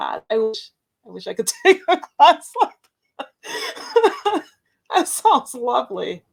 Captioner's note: laughs